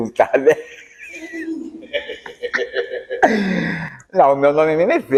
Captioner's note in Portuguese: Risadas